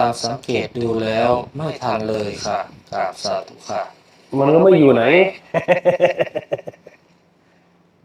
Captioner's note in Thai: เสียงหัวเราะ